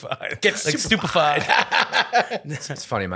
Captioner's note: laughing